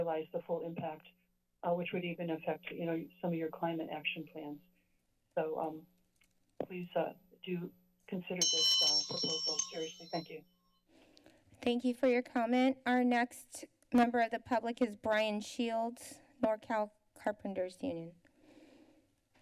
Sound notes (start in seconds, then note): 8.4 bell rings